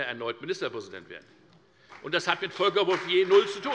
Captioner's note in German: Beifall bei der FDP